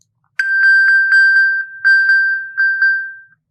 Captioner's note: electronic bell